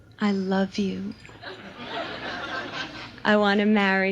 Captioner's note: audience laughs